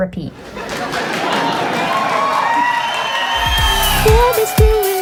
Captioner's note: crowd laughing and applauding